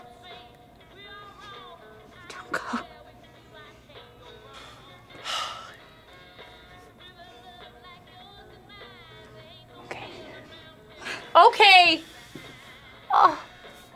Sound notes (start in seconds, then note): 5.2 exhales shakily